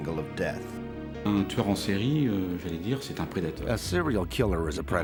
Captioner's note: speaks in foreign language